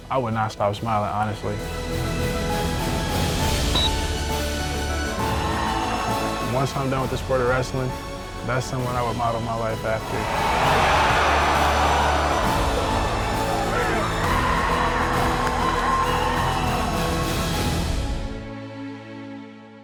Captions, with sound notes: I would not stop smiling honestly. (crowd cheering) Once I'm done with the sport of wrestling, that's someone I would model my life after. (crowd roaring)